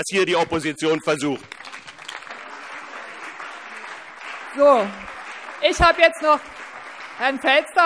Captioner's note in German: Beifall BÜNDNIS 90/DIE GRÜNEN und CDU